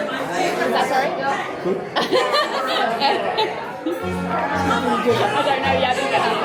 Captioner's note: laughter